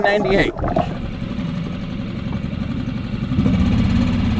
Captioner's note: boat whirring